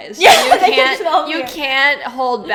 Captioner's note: laughs